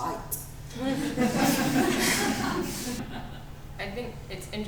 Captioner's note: audience laughter